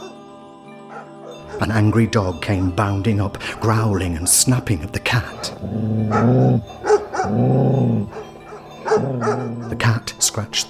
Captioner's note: grrr...woof woof!